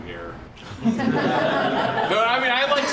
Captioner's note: laughter